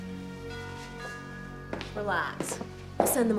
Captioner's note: doorbell ringing